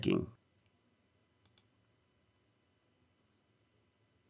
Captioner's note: mouse clicking